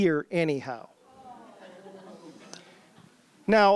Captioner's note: sounds of dismay from the audience